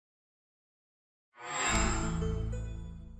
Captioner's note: chime